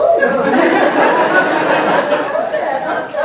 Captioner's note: laughter